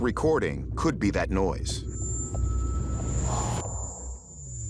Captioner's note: high-pitched noise